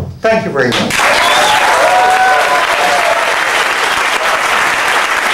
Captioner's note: applause